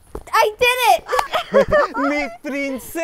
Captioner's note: Abuela and Abuelo laughing